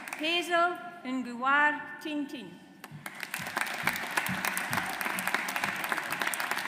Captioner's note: audience applauds